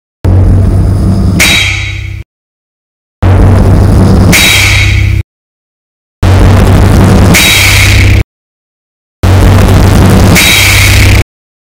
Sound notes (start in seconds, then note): 4.3 that sound a belt makes when you snap it, except if the belt were metal; 7.3 metallic smack; 10.3 smack